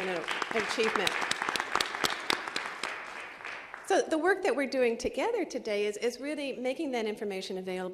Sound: applause

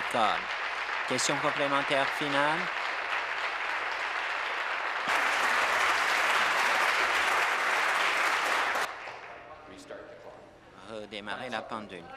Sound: applause

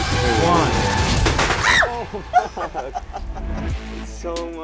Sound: popping; screams

